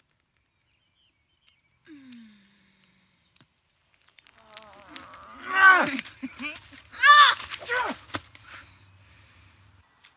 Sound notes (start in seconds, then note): 1.9 Julia moans; 6.0 chuckles; 7.3 Mathieu grunts